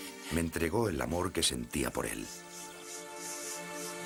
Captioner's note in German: Spricht eine andere Sprache